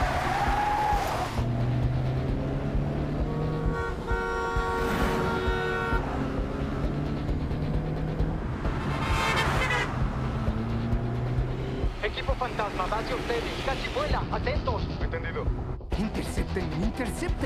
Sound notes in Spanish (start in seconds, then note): 3.6 bocina a todo volumen